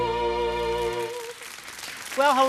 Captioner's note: audience applauding supportively